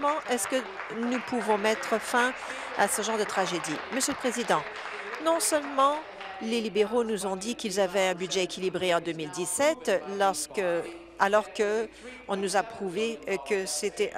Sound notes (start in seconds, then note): 6.4 applause